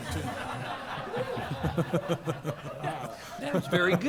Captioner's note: laughter